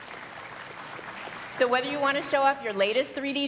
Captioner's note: applause